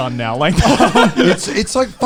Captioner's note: laughing